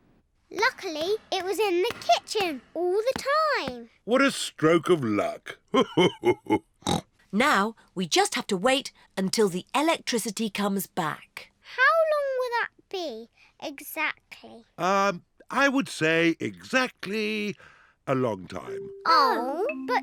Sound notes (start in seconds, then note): 5.4 laughs; 6.8 snorts